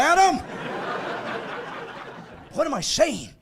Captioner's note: laughing